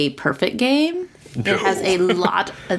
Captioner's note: laughs